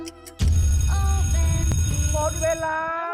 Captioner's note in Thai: เสียงกริ่งนาฬิกา